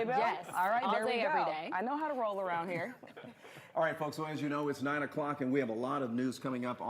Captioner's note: laughter